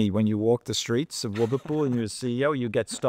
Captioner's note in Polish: śmiech